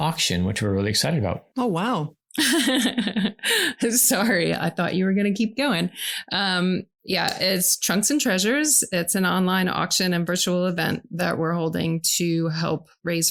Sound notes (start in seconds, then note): 2.4 laughs